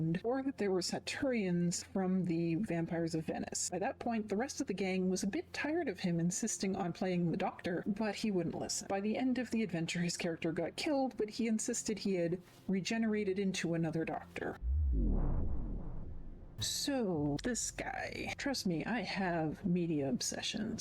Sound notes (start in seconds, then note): 14.6 vwoom